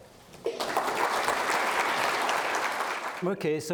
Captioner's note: applause